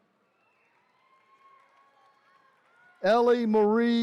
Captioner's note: attendees cheering